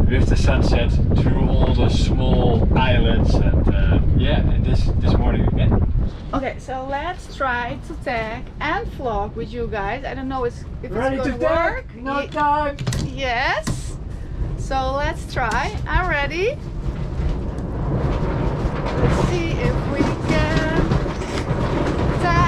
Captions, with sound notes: With the sunsets through all the small islands yeah, this morning, okay? - Okay, so let's try to tag and vlog with you guys, I don't know if it's going to work. Yes, so let's try. I'm ready. (wind blowing) Let's see if we can tag and vlog.